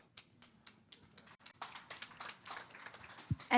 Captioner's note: applause